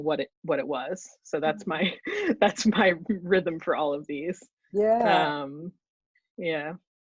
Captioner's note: chuckles